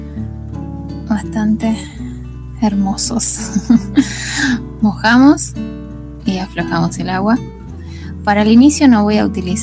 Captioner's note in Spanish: risas